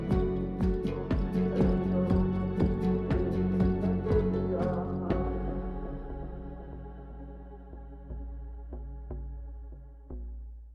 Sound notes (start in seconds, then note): 2.9 gentle music continues; 2.9 people chanting